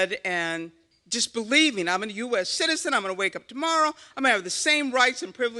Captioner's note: none